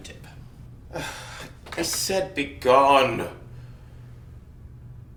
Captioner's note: sighs